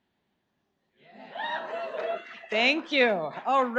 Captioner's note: audience cheers